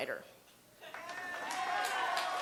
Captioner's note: applause, cheers